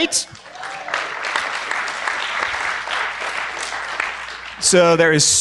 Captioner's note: applause